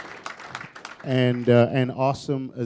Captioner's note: applause